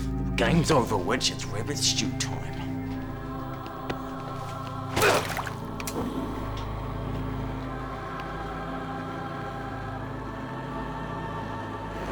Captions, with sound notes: Game's over once it's rabbit stew time. (grunts) (eerie music)